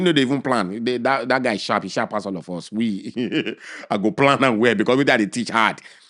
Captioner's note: chuckles